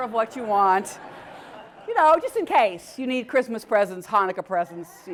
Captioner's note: laugh